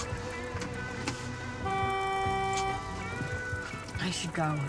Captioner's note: car horn